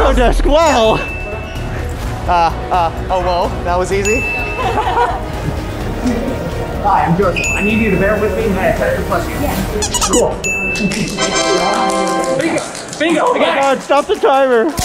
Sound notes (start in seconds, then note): 4.5 laughter